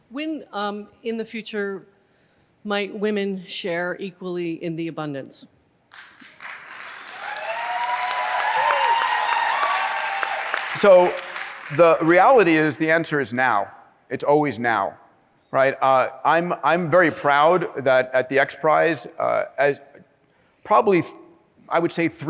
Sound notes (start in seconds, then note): 5.9 applause